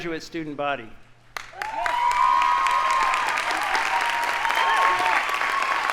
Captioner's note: audience applauding